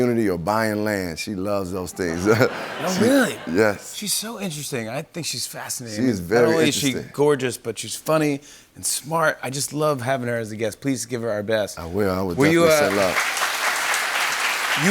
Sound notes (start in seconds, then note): 2.0 laughter; 12.4 applause